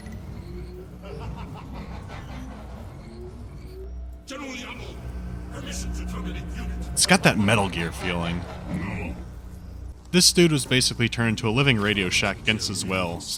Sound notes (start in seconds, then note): 0.9 malevolent laughter